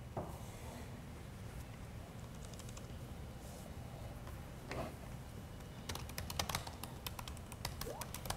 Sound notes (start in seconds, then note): 3.0 keyboard typing